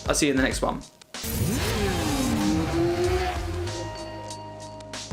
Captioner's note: motorcycle engine roars